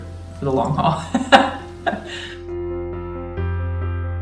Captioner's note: chuckling; soft piano music